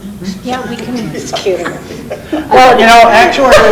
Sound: laughs

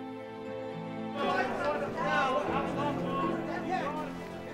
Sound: people chattering

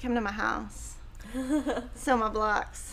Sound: soft giggles

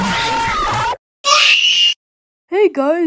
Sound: both Scream

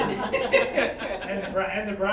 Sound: all laughing

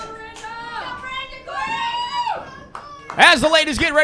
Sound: audience whooping

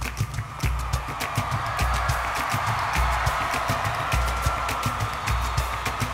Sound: audience cheers and applauds

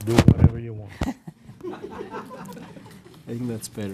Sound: laughter

